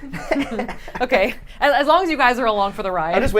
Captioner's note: laughs